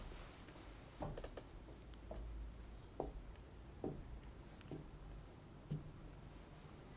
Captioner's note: muted footsteps thudding